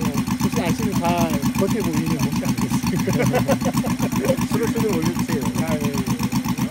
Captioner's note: Throttle